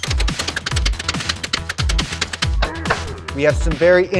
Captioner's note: wrench clicking